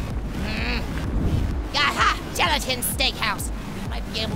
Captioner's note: none